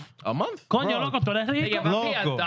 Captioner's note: speaking In Foreign Language